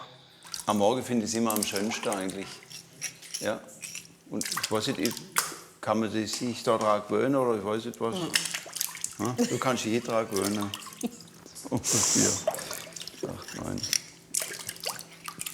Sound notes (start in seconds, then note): 11.6 muffled laughter